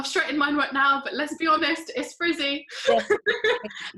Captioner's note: laughs